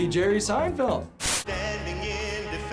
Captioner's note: static